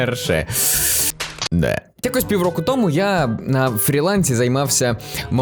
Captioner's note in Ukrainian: Хлопають по лобі